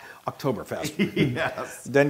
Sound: laugh

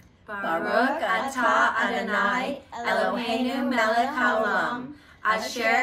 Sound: all chanting in foreign language

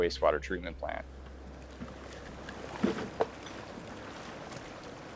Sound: water flowing

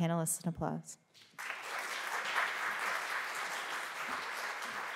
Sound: applause

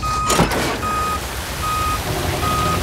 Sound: beeping

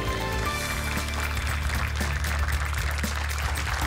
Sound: applause

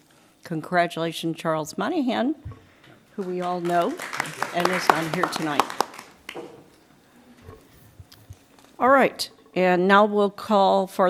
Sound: applause

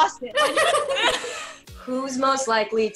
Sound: ladies laugh

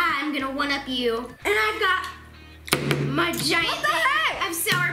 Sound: thud

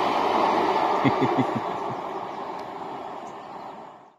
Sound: chuckling

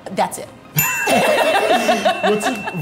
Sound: bell dinging; laughing

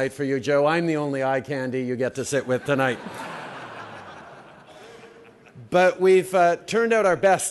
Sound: laughter

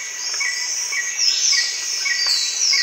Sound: sound of jungle

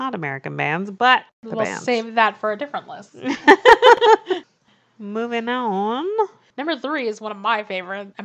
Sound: laughs

